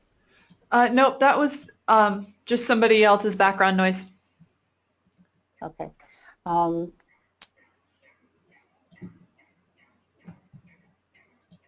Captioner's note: long pause